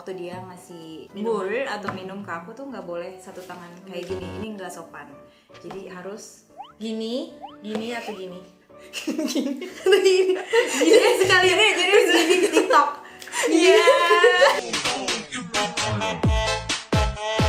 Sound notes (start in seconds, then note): 8.7 laughing; 8.7 teasing